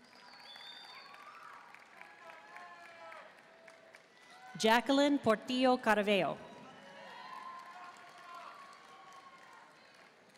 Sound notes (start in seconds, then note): 0.0 audience cheering and applauding; 2.1 audience member shouting; 6.6 audience cheering and applauding